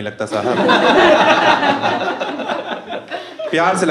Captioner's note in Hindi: हँसना